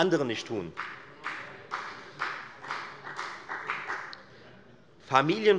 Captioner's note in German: Beifall bei der FDP